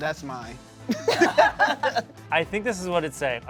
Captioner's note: laughs